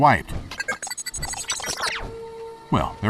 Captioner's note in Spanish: beep inquisitivo